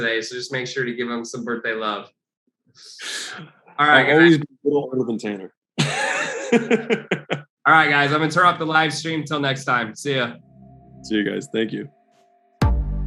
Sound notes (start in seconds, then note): 5.7 Alex laughs; 12.6 upbeat music